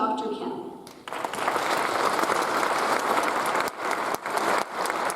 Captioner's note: audience applauds